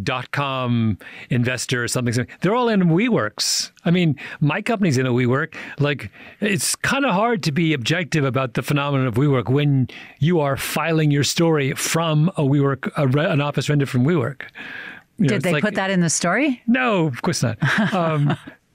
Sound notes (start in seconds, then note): 16.2 laughs